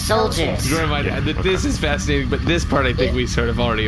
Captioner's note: laughing